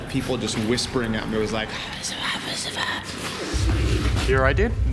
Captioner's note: raspy whispering